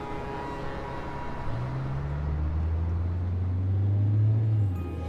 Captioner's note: engine rumbling; bright holiday music